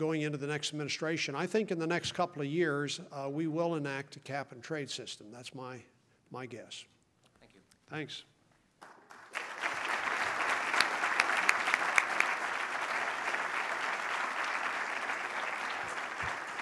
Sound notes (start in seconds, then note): 8.8 applause